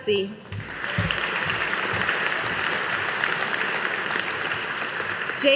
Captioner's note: audience applauding